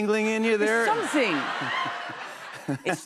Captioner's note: laughter